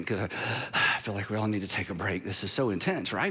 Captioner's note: exhales